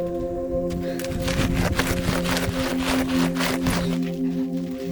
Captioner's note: Vilk scratching